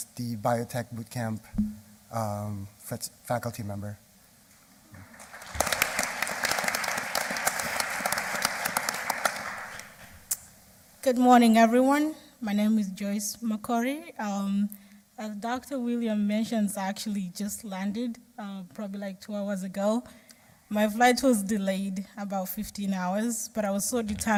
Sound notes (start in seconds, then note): 9.7 applause